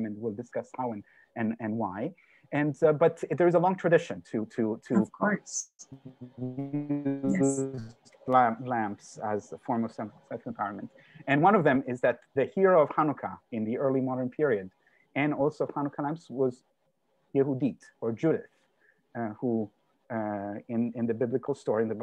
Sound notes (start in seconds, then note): 5.8 audio disrupted